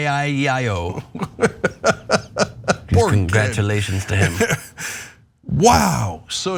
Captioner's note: laugh